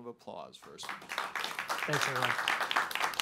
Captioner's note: applause